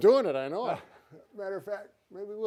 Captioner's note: sighing